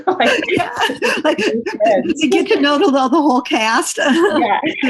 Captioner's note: laughter; laughs